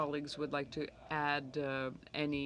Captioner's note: speaking French